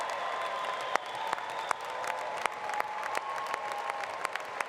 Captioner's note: applause